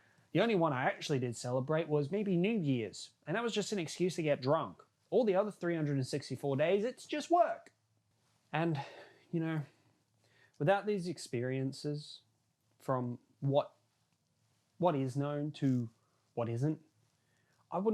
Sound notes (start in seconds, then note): 8.7 light breath